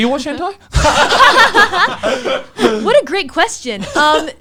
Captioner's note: laughs